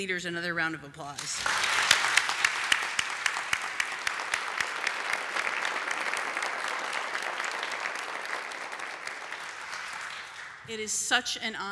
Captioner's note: applause